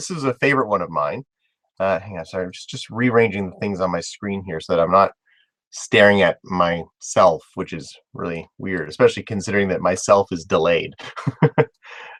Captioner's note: laugh